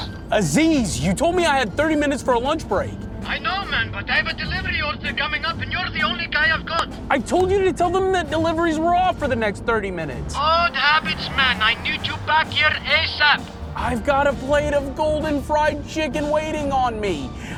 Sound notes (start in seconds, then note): 3.2 radio; 10.3 radio